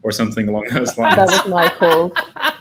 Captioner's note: all laughs; group chattering